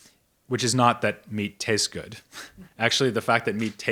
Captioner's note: chuckles